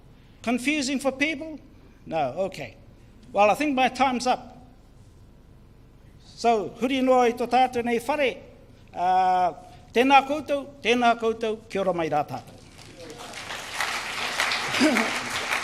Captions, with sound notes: Confusing for people, no okay. Well I think my times up, so (speaks in foreign language) (crowd cheers)